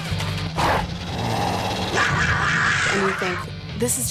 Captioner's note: growls